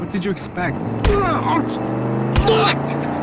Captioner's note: fist thumping; suspenseful music continues